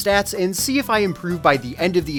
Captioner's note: none